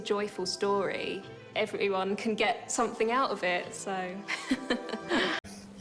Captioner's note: chuckles